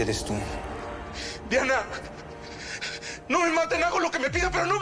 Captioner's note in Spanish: Sollozos